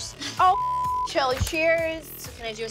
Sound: beep

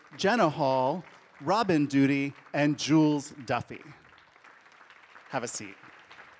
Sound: audience applauding

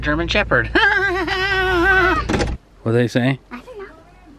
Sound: fake laughing

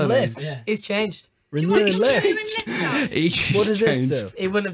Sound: laughing

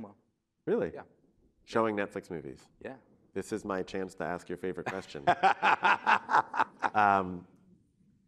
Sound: laughter

